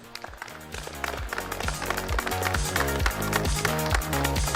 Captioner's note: audience clapping; upbeat techno music